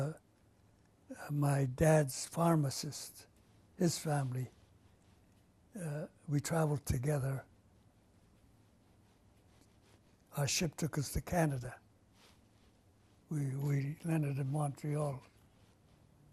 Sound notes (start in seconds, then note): 7.1 pauses for 3 seconds